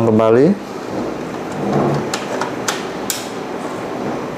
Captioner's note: installing damper sound